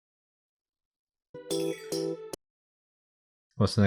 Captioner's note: surround sound sparkle noise